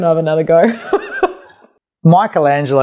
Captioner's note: laughs loudly